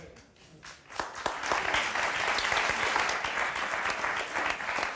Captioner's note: audience applause